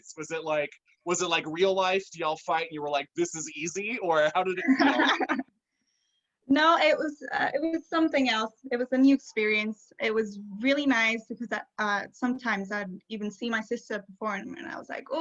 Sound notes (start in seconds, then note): 4.4 both laugh